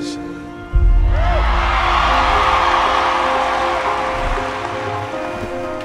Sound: crowd cheering

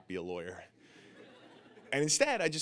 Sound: audience laughing

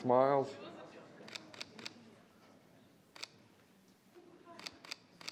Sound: camera shutter clicking

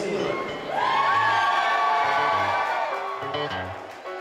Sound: crowd cheers

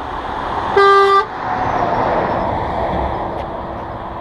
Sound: honk

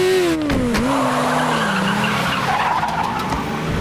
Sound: tires screeching

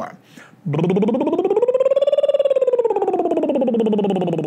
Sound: trilling

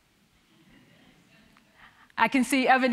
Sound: audience chuckling

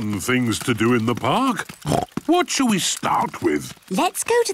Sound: snorts

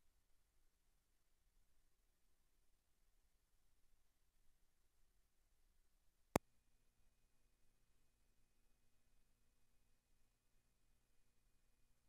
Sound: silence

